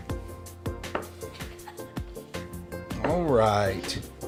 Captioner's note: giggling